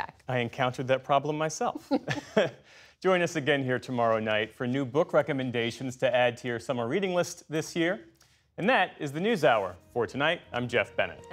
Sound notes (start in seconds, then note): 1.8 laughter